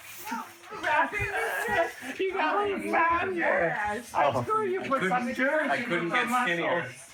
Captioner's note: group chattering